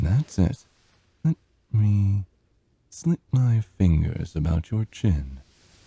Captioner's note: none